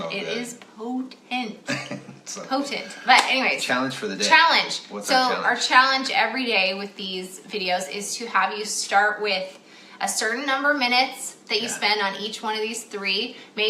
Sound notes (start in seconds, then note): 1.6 laughs